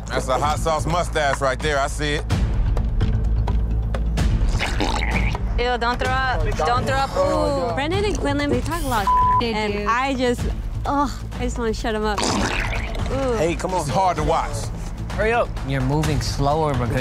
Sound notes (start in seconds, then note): 4.5 hot sauce gurgling; 4.6 dramatic music; 12.2 hot sauce gurgling